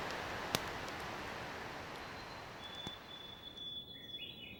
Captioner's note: birds singing